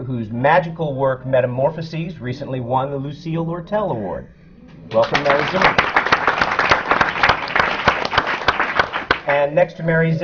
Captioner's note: applause